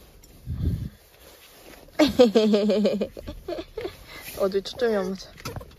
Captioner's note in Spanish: risas